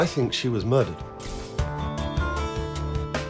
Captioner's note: camera shutters